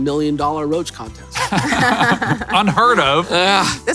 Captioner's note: laughs